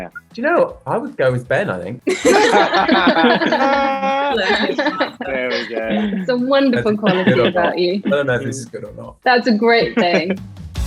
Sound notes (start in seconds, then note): 2.0 all laughing